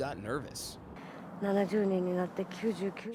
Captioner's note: non-english speech